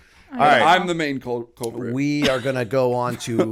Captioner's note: chuckle